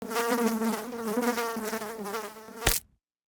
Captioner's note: fly buzzing